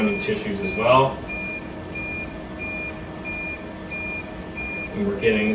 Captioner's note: machine beeping